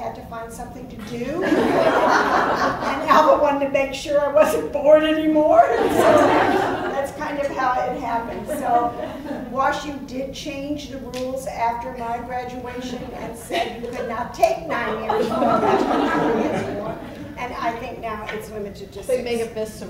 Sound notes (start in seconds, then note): 8.4 laughs